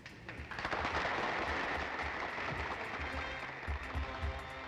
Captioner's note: applause